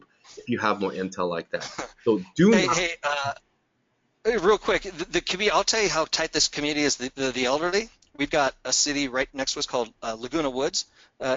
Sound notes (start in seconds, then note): 1.5 chuckling